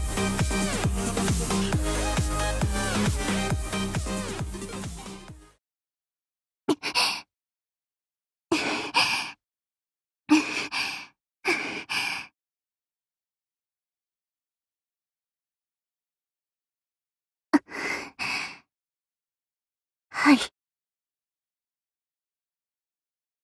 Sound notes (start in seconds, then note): 8.6 panting